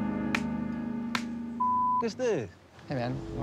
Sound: beeping

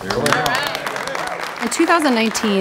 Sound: observers applaud

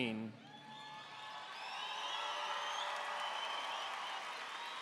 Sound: audience cheering

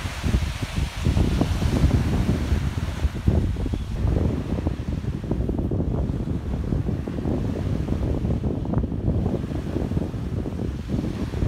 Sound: crashing waves, bird song, gentle wind

